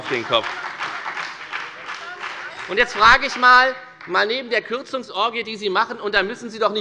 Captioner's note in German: Beifall bei der FDP und bei Abgeordneten der SPD